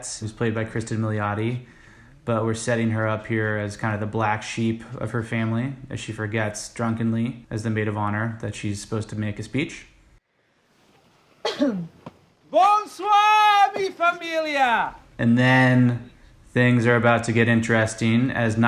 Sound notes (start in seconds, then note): 11.4 clears throat